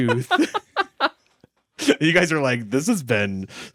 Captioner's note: everyone laughs